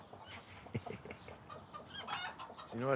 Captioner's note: chickens clucking; Abe chuckles